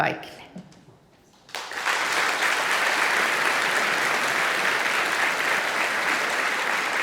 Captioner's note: applause